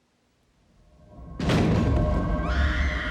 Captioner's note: gunshot; girl screams